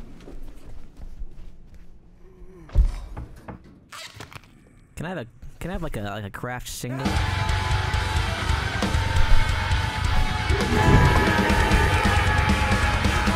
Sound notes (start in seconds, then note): 2.3 body fall; 3.3 door creaks; 7.0 screaming; 7.0 metal music; 10.4 laughing